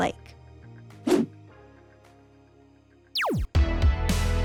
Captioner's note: laser beeping; screen whooshing; lively music